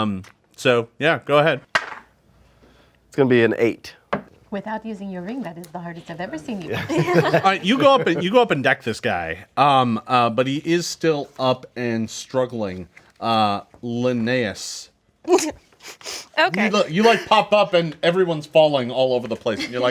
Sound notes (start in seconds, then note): 1.7 dice roll; 6.6 group laughs